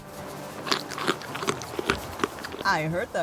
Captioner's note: smacking sound